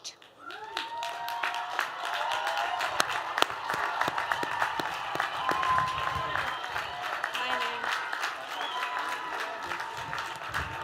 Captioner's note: applause